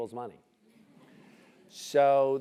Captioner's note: laugh